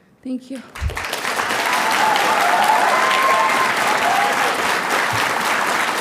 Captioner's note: audience applauding and cheering